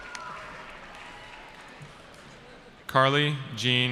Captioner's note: cheering